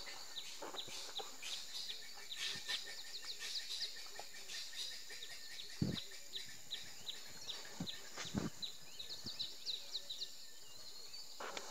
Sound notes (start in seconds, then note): 0.8 birds calling